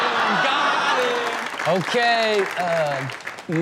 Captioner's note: audience clapping